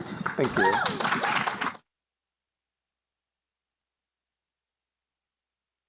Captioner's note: applause